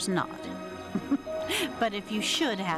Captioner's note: giggles